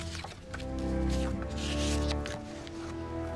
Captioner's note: paper rustling